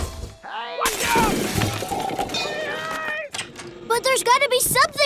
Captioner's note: rock music; yelling and crashing sound